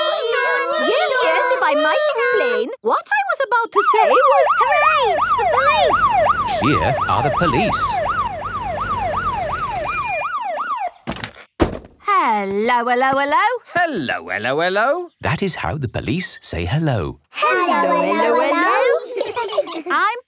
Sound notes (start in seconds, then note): 0.0 children imitating sirens; 4.7 siren wailing; 11.1 siren stops; 17.6 children giggle